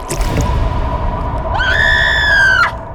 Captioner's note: trap thuds; Shelby screams